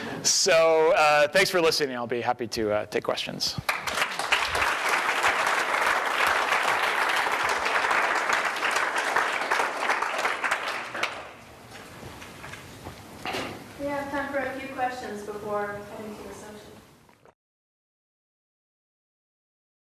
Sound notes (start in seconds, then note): 3.6 applause